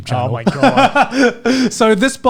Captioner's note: laughing